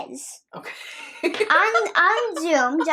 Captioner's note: nana laughs